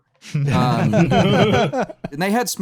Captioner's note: laughter